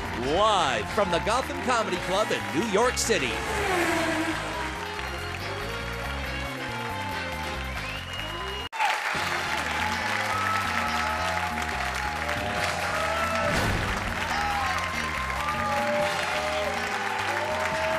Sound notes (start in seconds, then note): 3.4 race car zooms; 5.7 audience applauds and cheers; 9.3 upbeat music; 13.9 audience applauds and cheers